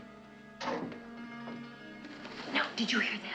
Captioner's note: door closing